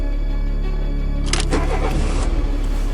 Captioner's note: engine starting